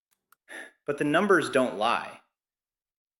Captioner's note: sighs